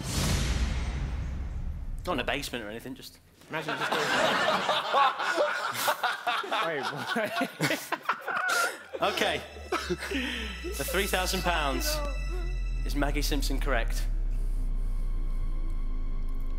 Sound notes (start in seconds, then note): 0.0 dramatic crescendo; 3.6 laughing